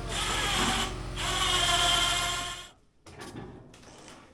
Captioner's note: machine buzzing